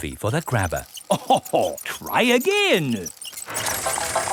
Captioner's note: chuckles